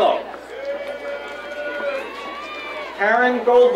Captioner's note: crowd cheering